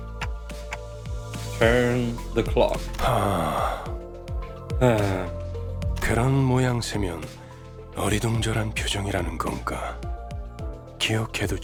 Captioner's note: sigh